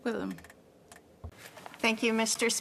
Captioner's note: speaking French